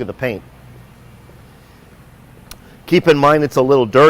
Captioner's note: footsteps